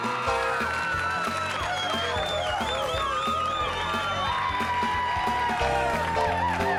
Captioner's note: crowd cheering; upbeat music